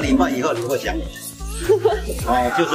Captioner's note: ha ha ha